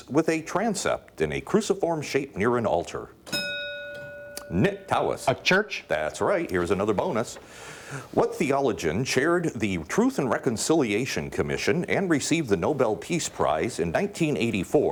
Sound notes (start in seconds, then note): 3.2 bell dinging